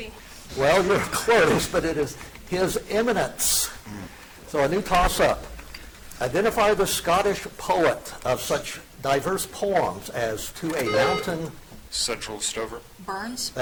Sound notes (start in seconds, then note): 10.8 buzzer dings